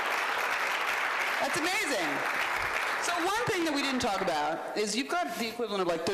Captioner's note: applause